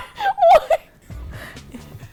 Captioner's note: laughs